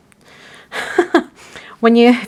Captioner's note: chuckling